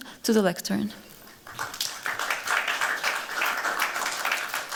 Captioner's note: applause